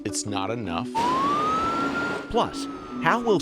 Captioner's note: siren wailing